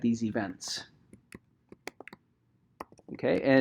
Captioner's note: keyboard clicking